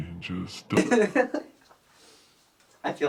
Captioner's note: Taylor laughs